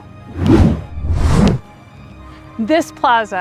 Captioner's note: wind whooshing